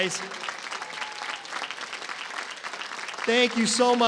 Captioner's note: applause